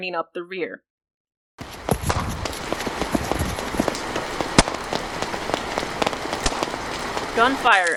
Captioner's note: gunfire, rain, and breeze and footsteps on stone